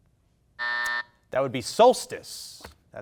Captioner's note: buzzer buzzing